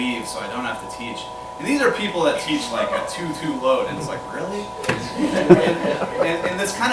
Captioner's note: laughter